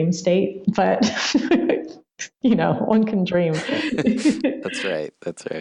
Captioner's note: laughs